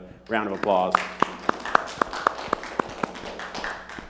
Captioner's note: clapping